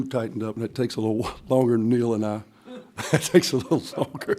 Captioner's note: laughs